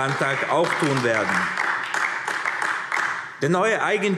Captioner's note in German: Beifall AfD